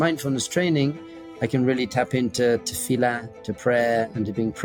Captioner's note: speaks in Hebrew